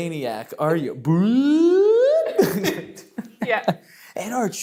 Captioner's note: laughs